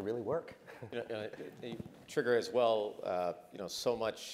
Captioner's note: laugh